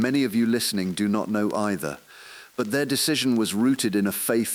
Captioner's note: exhale